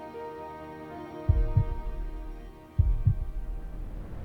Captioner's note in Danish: musik falmer; bankende hjertelyd